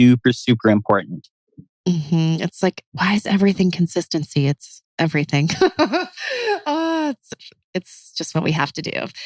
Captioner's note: laughs